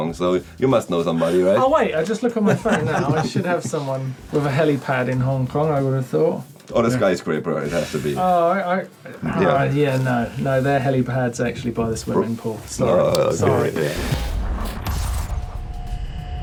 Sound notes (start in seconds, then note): 2.4 laughing